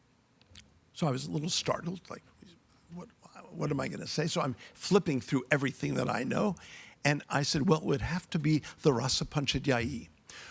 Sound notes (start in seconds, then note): 8.5 speaking in foreign language